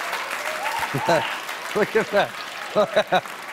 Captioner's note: cheers and applause